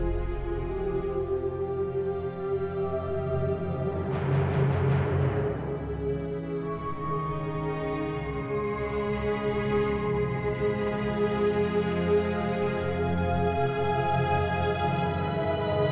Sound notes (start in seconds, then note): 1.1 eerie music; 1.1 people vocalizing